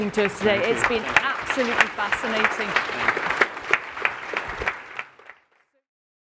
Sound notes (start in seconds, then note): 2.1 applause